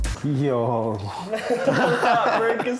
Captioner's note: laughter